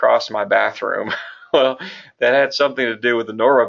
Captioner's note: chuckle